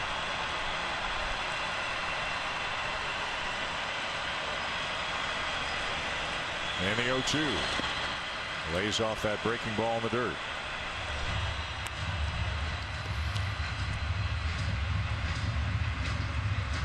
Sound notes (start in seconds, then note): 3.1 applause; 3.6 cheering and Applause